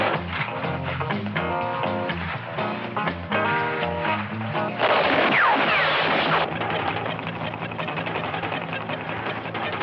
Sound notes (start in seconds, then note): 4.8 gunshots; 6.5 tense music